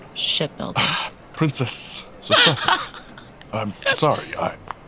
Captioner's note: Sophrosyne laughs